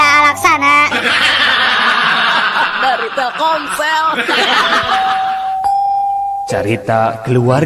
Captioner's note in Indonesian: tertawa